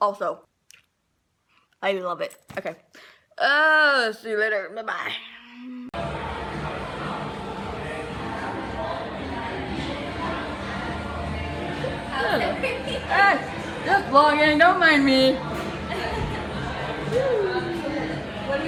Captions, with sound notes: Also. I love it. OK. See you later. Bye bye. [restaurant noise] Just filming don't mind me!